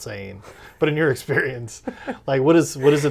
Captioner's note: laughs